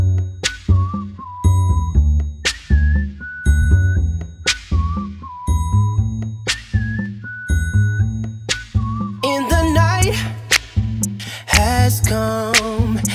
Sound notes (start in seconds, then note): 0.1 Frankie whistles; 2.1 friend whistles; 4.1 Rex whistles; 6.2 Bella whistles; 8.2 Avery whistles